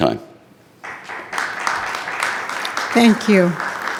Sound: attendees clapping

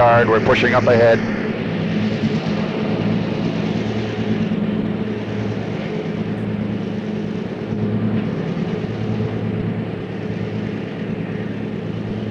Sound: sound of the train moving

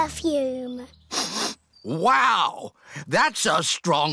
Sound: sniffs

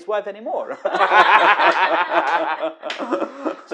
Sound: laughs

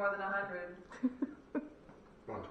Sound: giggling

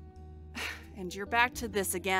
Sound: MANAMI sighs

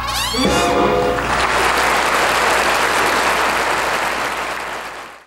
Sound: audience applauding

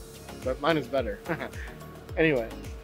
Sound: laughing

